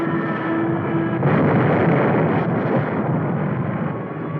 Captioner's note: explosion booming